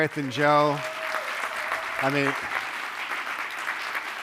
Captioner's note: audience applauding